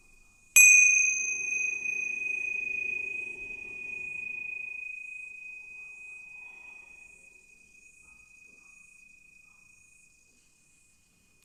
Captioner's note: prayer bell rings